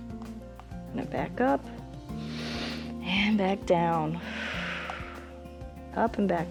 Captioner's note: inhales; exhales